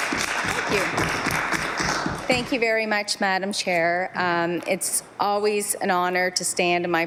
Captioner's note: some Applause